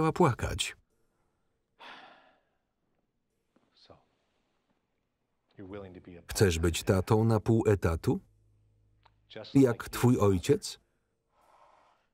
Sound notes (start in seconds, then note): 1.8 sighing